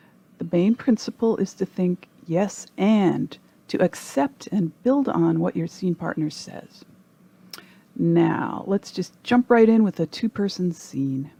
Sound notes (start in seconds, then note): none